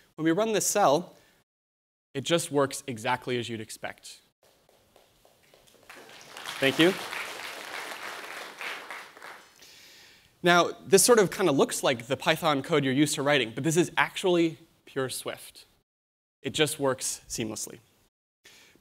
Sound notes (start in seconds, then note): 5.4 applause